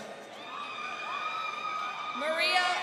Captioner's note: crowd cheering